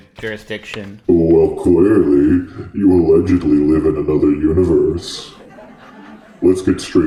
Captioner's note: laughter